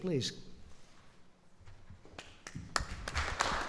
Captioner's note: applause